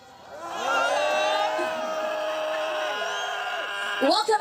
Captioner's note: crowd roaring in annoyance